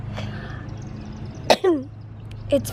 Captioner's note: cough